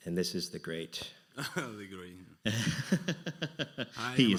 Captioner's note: laughs; laughing